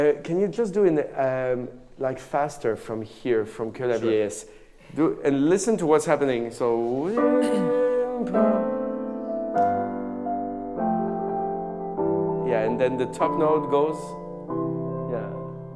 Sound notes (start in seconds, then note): 7.0 hums; 9.9 piano music